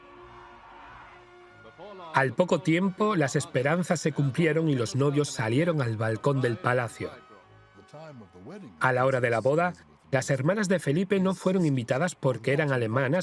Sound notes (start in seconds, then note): 1.6 voiceover